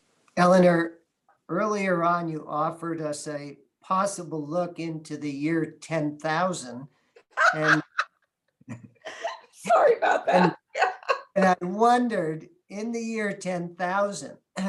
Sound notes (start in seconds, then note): 7.2 laughing